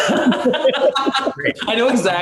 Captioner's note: laughter